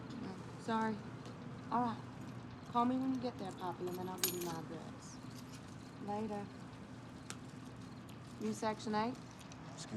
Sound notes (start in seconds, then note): 3.5 keys rattling